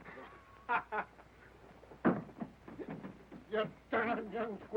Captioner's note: man laughing